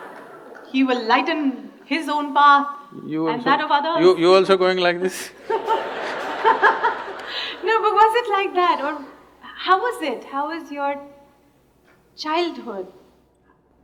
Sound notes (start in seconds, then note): 5.3 laughter